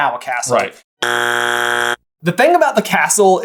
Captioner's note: buzzer of wrongness